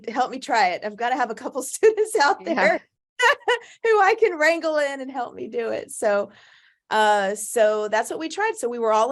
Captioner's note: laughs